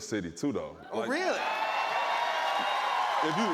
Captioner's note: cheers and applause